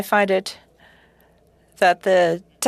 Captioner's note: speaking French